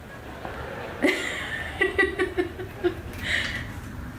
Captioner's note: audience laughing